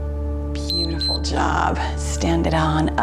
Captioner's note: timer beeps